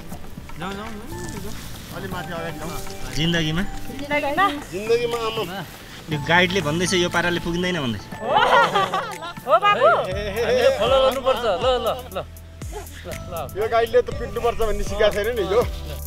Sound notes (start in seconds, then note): 8.2 laughter